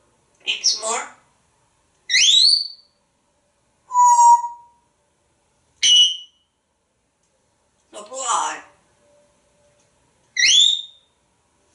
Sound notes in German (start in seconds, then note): 1.8 whistle